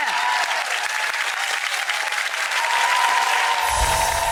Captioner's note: audience applauds